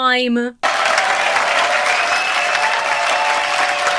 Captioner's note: audience applauds and cheers; claps